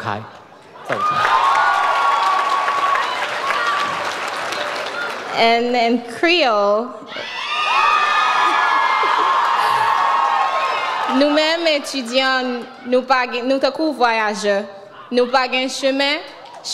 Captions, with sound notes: (audience cheers) - And in Creole. (audience cheers) (speaks in foreign language)